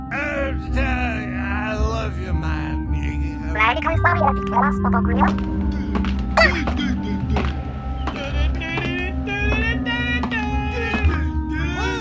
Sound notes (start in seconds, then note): 3.4 Inkling gibberish